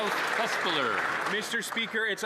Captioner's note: applause